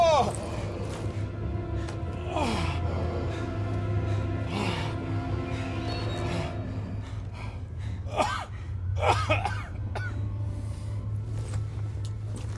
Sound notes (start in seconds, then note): 7.4 coughs